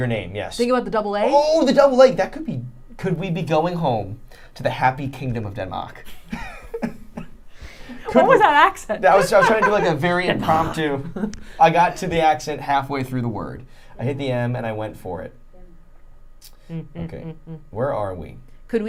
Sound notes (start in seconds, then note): 6.1 laughing